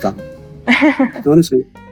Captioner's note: chuckles